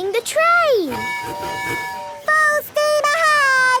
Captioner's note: tooting